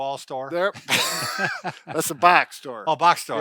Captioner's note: laughter